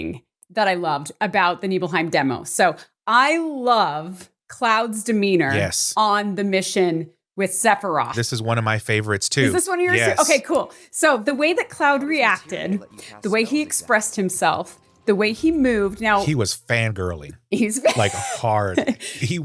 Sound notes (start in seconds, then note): 17.8 laughs